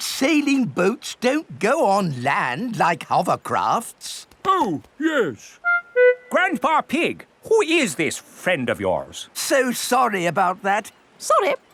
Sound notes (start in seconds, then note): none